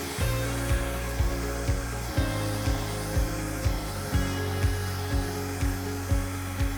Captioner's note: bright music continues; fan whirring